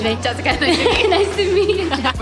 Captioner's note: women laugh